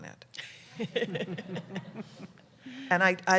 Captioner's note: laughter